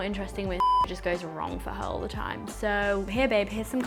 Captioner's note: beep